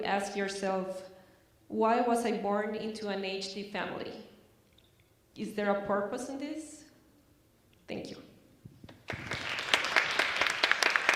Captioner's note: applause